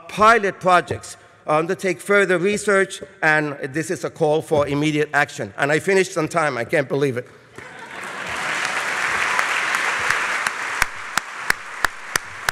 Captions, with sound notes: Pilot projects, undertake further research, and this is a call for immediate action. And I finished on time, I can’t believe it. [Laughter and applause from audience]